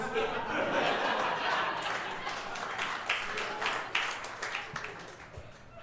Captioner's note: audience laughing and clapping